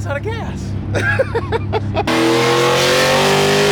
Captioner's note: man laughing; car engine roaring